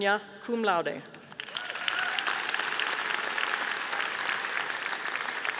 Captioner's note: audience applauding